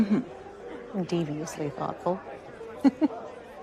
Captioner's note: laughs